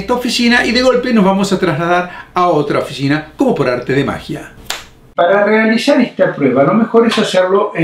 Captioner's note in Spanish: snap